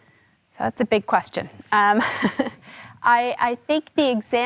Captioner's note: chuckles